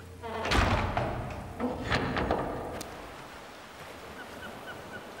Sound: door slamming and locking

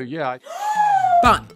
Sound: shrieks

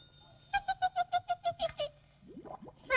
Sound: giggles

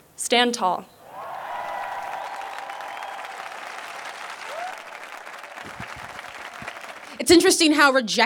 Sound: applause

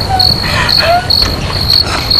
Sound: night crickets

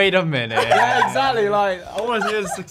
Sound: Gia laughing

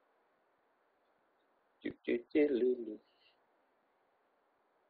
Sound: humming

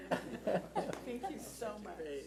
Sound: laughs

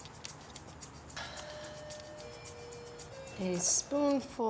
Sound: doorbell chimes

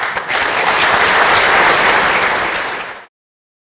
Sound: applause

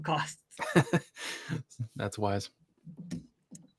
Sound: laughs

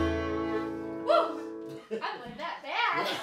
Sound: chuckling

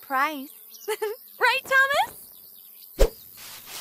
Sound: intense giggles

